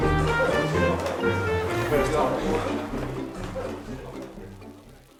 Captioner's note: beer fizzing